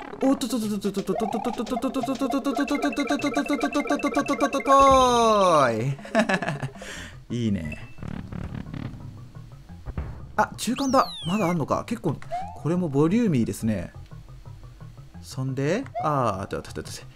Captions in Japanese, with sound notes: お～っとととととととと とぉ～～い ｗｗｗ ｽｩ（息を吸う音）いいね あっ中間だ！まだあんのか、結構これもボリューミーですね そんで？あぁ～だだだ